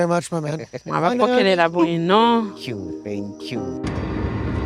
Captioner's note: father speaking in foreign language; gentle music